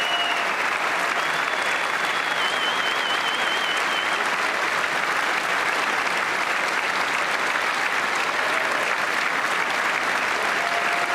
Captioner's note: applause